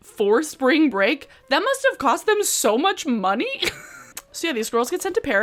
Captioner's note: giggles